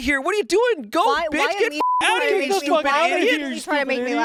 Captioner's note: beep